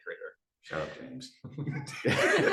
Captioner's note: group laughter